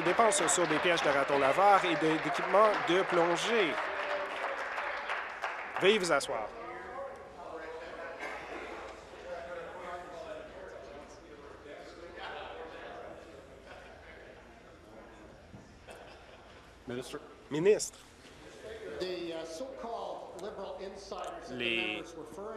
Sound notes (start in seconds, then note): 3.2 applause; 12.3 chatter